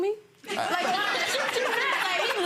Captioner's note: audience laughing